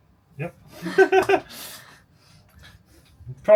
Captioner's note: laughter